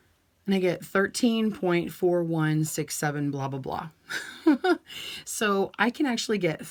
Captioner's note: laughs